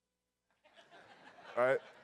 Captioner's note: audience laughs